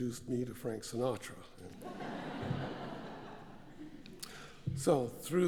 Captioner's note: laugh